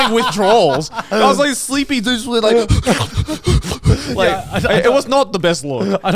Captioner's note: panting